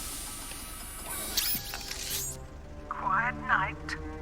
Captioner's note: none